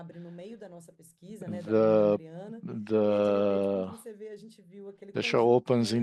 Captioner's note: speaking in Portuguese